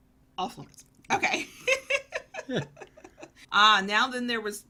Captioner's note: both laugh